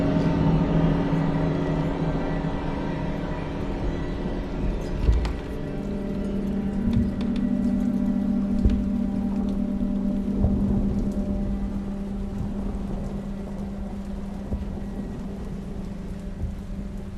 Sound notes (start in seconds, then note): 5.0 footsteps above; 9.9 rain falling